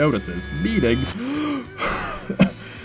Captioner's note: cough; gasp; ungasp